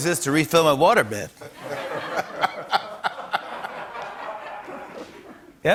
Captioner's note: laughter